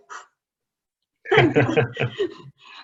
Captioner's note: laughing